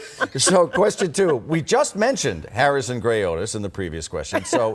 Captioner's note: laughter